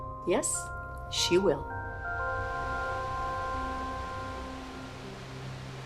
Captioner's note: water rushes